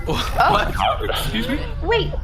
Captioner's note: Pleck laughs, Dar scoffs in bewilderment